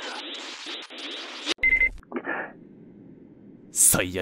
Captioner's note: beep